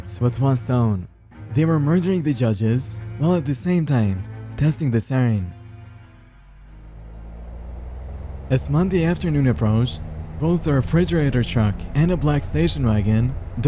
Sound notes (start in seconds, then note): 6.3 vehicles driving